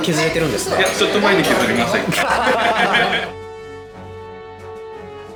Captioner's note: laughs